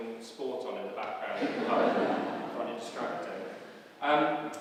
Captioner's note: laughs